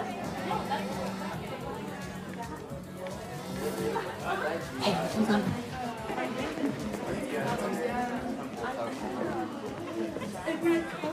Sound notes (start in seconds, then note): 0.2 phone vibrating; 5.8 people chattering